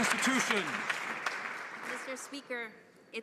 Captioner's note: some Applause